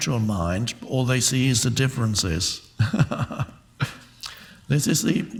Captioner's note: laughs